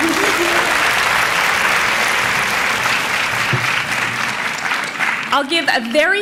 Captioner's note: applause